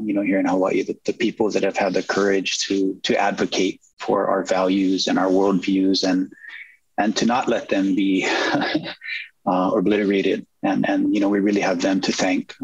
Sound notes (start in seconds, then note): 8.2 chuckles